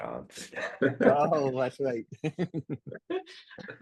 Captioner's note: laugh